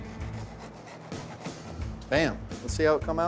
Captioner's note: slicing sound